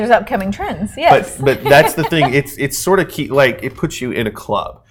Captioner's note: laughing